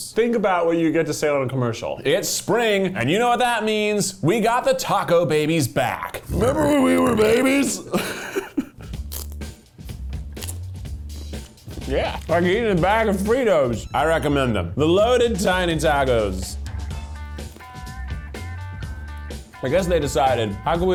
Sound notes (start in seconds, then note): 6.2 burping; 8.0 laughing; 9.0 crunching